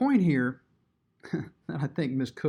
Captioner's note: chuckles